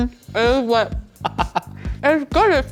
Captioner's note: laughing